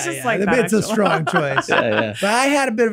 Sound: laughs

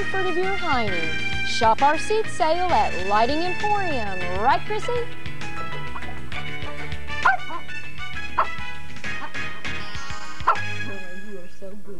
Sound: barking

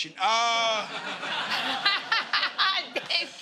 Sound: laughter

